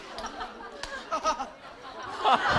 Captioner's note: haha